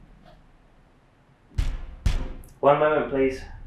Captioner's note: thumping